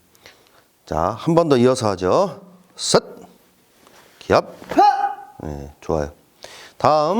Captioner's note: yell